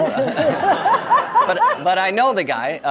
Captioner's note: audience laughs